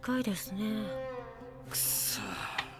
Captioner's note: CONNY sighs